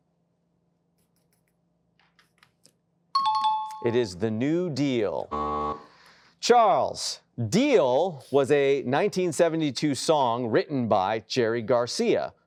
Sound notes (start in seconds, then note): 3.2 chime; 5.3 buzzer blares